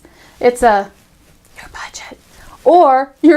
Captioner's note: whispers